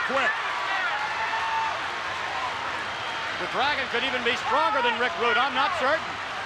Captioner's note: applause